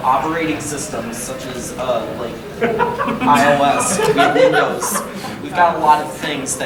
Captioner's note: audience laughing